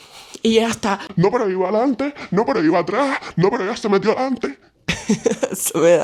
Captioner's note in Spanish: risas